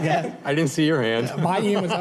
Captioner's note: laughter